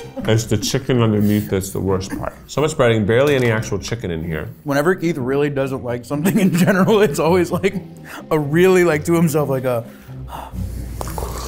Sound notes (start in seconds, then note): 10.2 sighs deeply